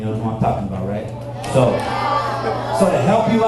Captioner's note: audience cheers